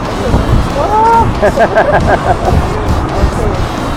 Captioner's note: laugh